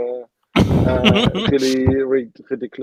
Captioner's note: laughing